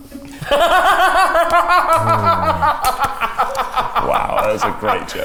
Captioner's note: everyone laughs